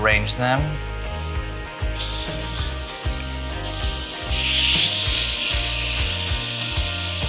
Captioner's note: grill sizzles; upbeat music